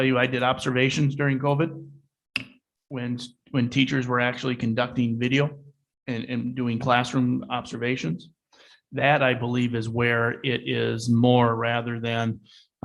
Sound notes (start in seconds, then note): none